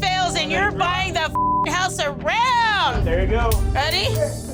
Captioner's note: beep